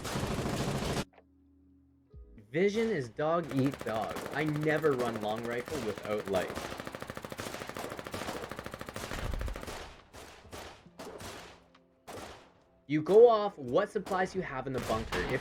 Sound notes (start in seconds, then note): 0.2 ringing silence; 6.5 constant gunfire under cover of night